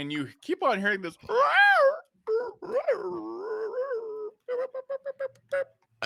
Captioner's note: imitates creature sound